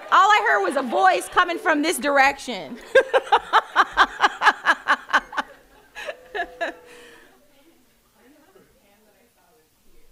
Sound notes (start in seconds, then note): 2.7 laughing